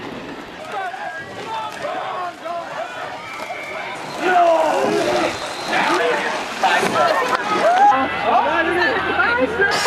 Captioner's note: shouting and cheering